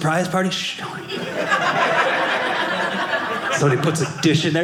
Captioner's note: audience laughing